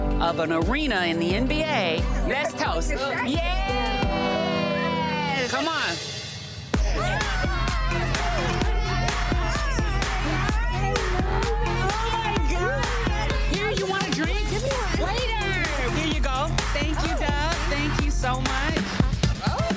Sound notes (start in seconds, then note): 8.3 friends hollering; 8.3 upbeat electronic music